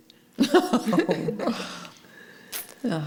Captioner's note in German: Lachen